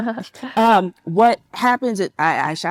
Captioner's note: participant laughs